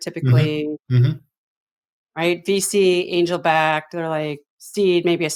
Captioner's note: laughs